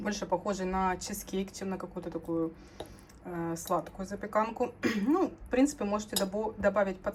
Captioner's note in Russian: откашливается